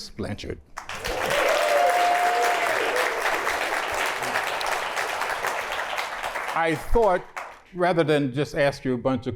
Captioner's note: applause